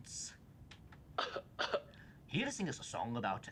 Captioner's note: cough track playing